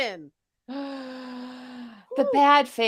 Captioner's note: inhales